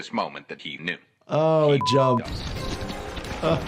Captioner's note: voiceover; beep